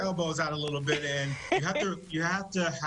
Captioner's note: laughter